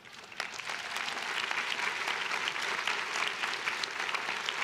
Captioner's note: crowd clapping